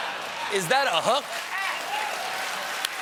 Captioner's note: applause